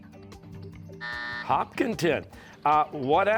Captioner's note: buzzer